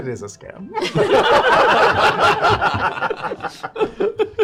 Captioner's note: laughter